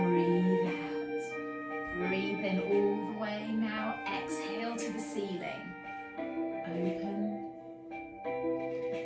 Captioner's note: breathes